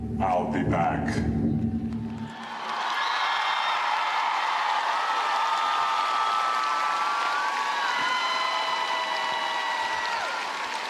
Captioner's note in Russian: ликование